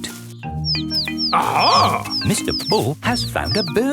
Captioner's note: chirping